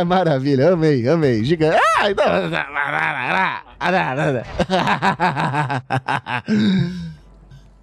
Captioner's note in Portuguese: murmurio